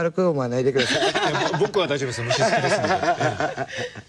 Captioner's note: cười